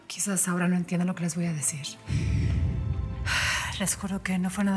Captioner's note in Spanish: exhala